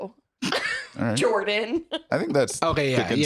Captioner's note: aggressively